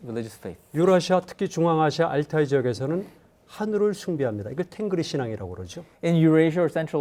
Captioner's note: speaking in Korean